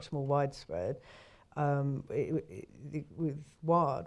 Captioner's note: inhales